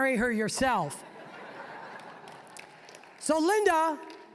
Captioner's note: audience laughing